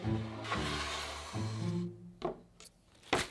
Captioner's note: board sliding